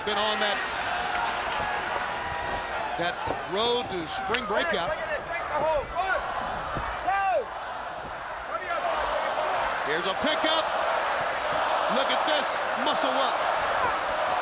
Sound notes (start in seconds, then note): 8.8 crowd chanting